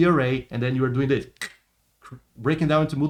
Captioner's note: clicks